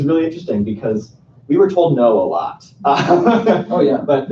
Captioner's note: laughs